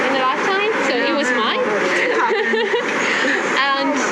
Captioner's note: laugh